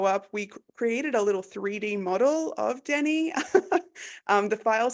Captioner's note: laughs